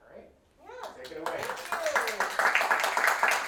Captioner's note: audience applauds